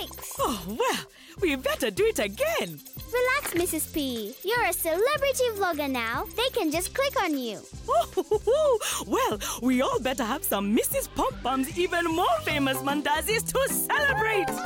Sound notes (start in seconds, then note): 7.8 chuckling